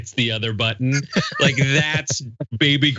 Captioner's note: laugh